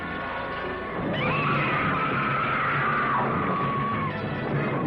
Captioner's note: screaming